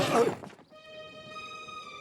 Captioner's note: thumps